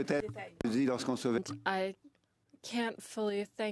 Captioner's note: speaking in French